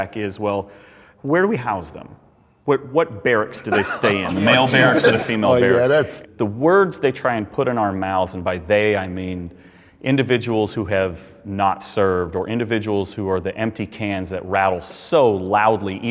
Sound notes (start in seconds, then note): 3.6 men laughing